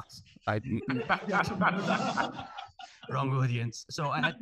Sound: all laughing

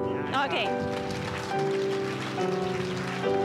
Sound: applause

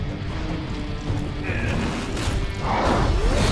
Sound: grunting

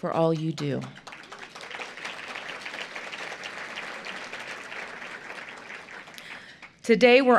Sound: applause

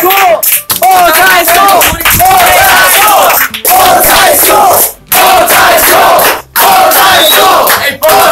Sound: chanting 'Bowtie is cool!'

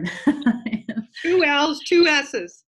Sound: laughs

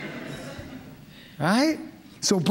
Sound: laughter

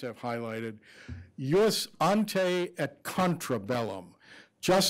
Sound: speaking foreign language

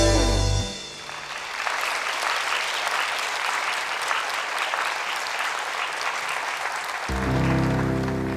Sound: applause

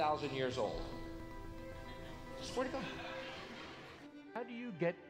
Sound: audience Laughs

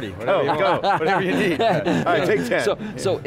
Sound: laughs

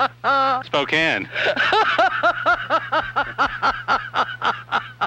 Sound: laughing

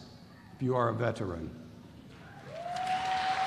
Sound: applause

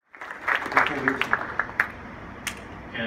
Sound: applause

